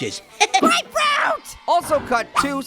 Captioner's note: laughs